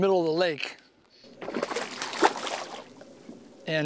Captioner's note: splashing